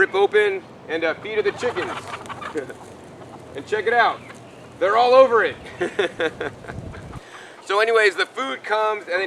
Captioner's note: laughs